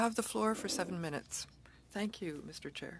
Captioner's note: speaking French